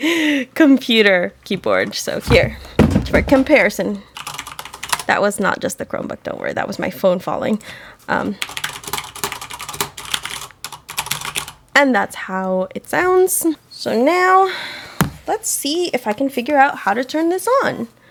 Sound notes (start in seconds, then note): 2.2 something falls; 8.4 loud mechanical keyboard typing